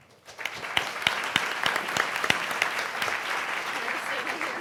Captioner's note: audience applauding